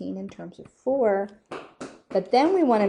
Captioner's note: footsteps slapping